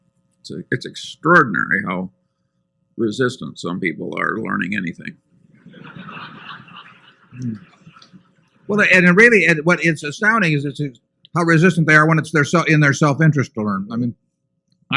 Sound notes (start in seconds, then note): 5.6 laughter and applause